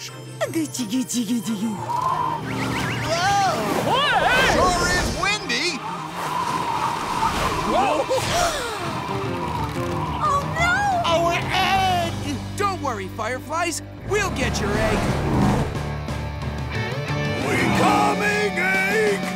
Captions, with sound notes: [cooing] Whoa, sure is windy! Whoa! [gasps] -Oh no! -Our egg! Don't worry fireflies, we'll get your egg. We coming egg!